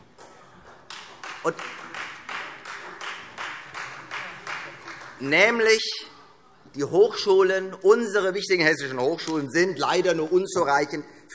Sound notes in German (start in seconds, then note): 0.7 Beifall Freie Demokraten